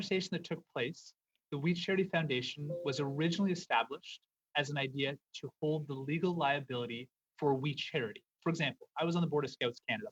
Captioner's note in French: voix de l'interprète